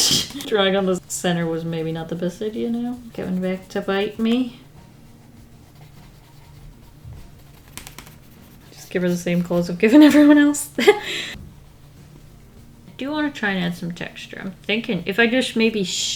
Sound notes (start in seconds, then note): 0.0 laughs; 10.7 laughs